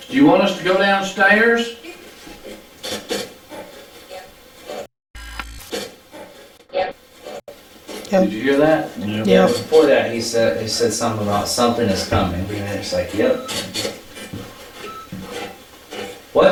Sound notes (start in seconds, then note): 2.0 static playback transmitting; 5.2 static fizzing; 6.2 static playback transmitting; 14.0 static playback transmitting